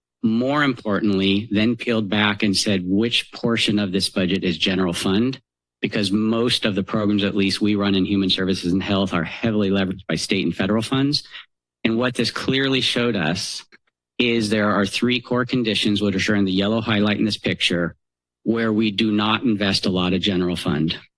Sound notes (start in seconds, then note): none